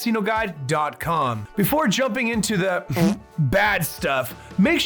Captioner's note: chuckle